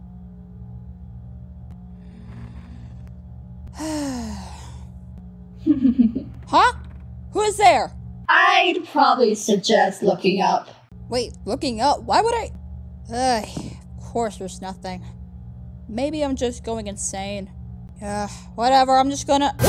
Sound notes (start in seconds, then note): 2.0 Angel Toon inhales; 3.8 Angel Toon exhales; 5.6 mysterious snicker